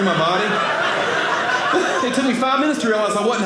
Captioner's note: audience laughing